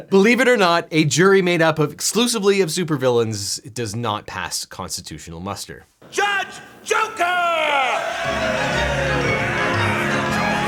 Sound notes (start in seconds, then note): 6.8 crowd cheering